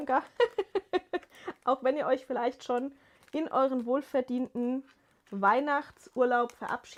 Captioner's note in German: gelächter